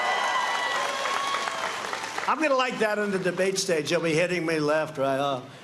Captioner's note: cheers and applause